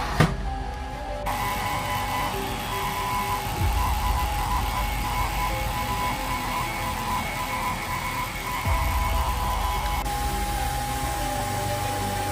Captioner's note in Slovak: Potlesk